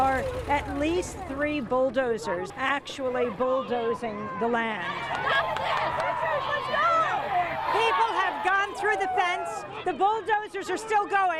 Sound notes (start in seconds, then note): 4.1 group yelling and cheering; 11.1 people screaming